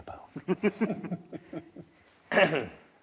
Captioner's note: laugh; cough